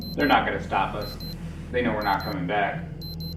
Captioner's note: device beeping